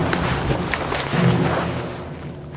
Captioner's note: four guns cocking simultaneously